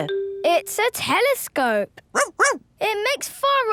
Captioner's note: barking